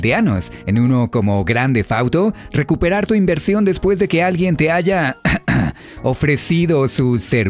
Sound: cough cough

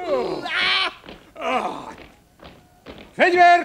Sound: laughs

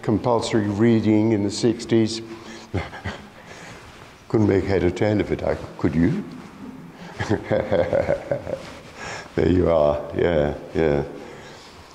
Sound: laughs

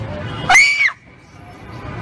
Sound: scream

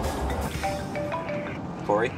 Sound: phone rings

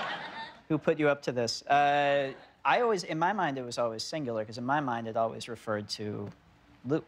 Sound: laughter

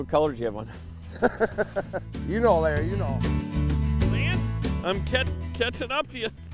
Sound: laughing

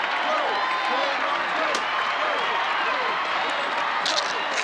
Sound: bones cracking

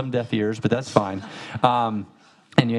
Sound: audience laughing

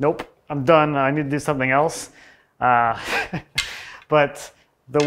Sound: laughs

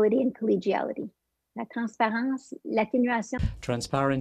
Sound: French

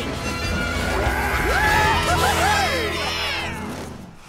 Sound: cheering

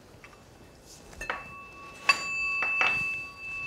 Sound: bell ringing

